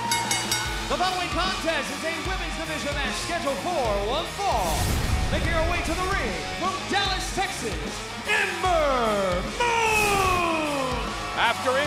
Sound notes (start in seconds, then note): 0.0 bell ringing